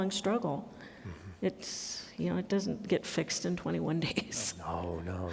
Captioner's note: laughs